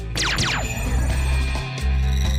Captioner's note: radio; laser sfx